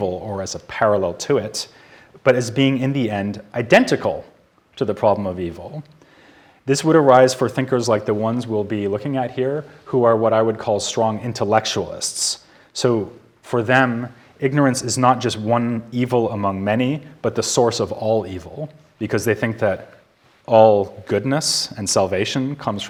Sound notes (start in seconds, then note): none